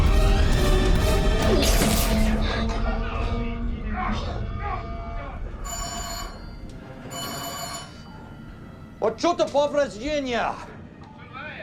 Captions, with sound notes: [Alarm] What sort of. Virginia.